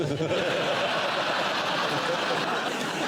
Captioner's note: laughter